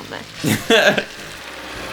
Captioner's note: laughs